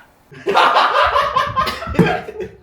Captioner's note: laughs